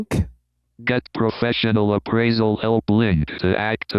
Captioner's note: automated Voice